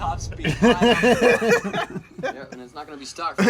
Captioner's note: laughter